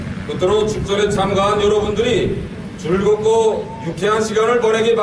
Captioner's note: speaking in Korean